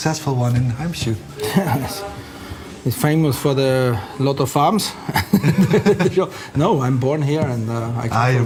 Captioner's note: laughs